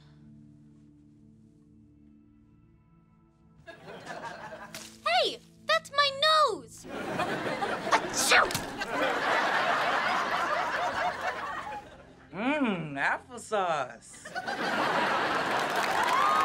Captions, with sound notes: Hey! That’s my nose! [sneezing] Mmm, applesauce.